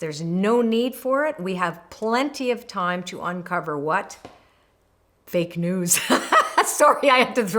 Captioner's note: laughs